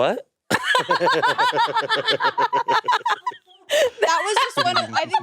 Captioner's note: both laughing